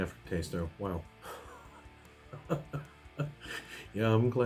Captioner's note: laughs